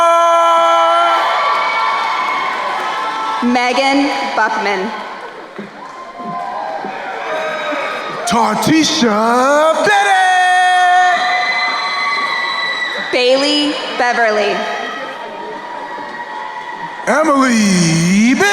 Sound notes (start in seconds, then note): 1.5 crowd cheering; 6.0 crowd cheering and applauding; 11.4 crowd cheering; 14.9 crowd cheering